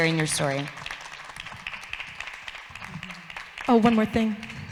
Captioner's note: audience applauds